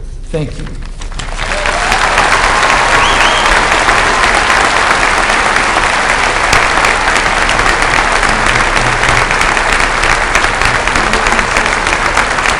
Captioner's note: applause